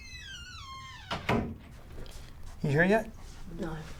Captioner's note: door rattles and squeaks; door thuds